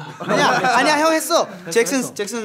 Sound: laughing; speaking in foreign language

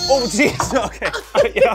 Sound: makes painful noise

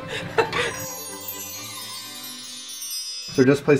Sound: laughter; sparkly sound effect

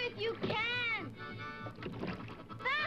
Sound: oars thudding; water splashes

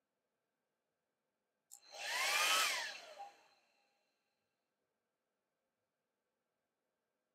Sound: hairdryer turning on & off

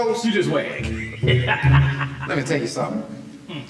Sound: laughing

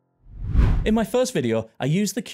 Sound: text whooshes

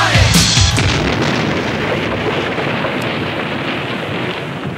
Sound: bomb exploding

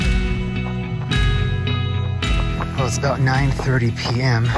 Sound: footsteps crunching

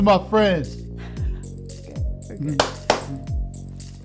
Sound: laughs; claps

